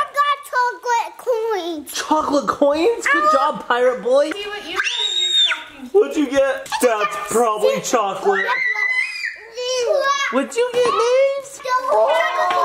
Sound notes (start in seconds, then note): 4.7 screams